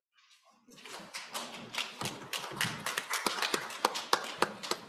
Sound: audience applauds

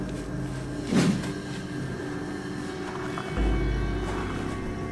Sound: swooshing noise

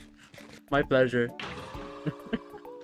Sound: big man death sounds

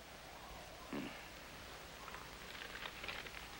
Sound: grunt

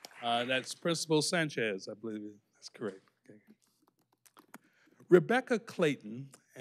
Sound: applause

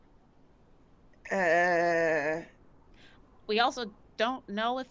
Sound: Fairuza groans

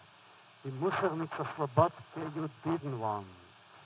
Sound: foreign language

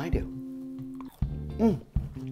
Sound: food crunching

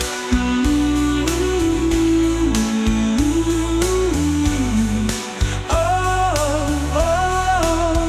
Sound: humming

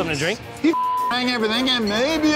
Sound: beep

